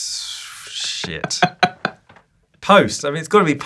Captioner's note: laughing